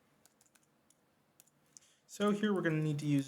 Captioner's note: mouse clicks